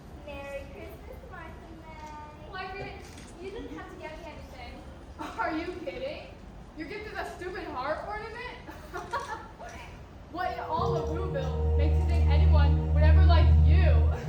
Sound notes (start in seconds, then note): 8.6 laughs; 14.0 laughing